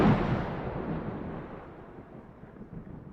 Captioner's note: thunder